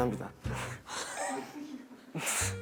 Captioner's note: laughs